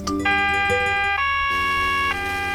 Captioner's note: police siren